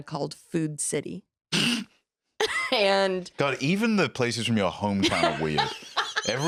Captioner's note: snickers